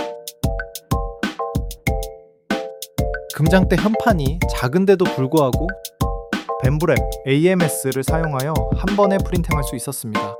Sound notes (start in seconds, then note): 3.2 speaking in foreign language